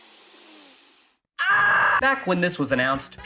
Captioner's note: screams